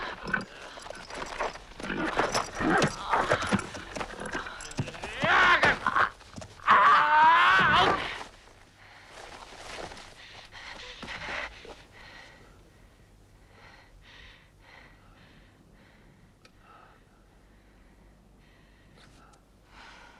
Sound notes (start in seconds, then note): 0.0 Hundra grunting; 5.1 cavalier shouts; 10.8 Hundra breathing heavily